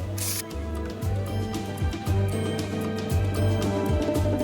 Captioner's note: camera flashing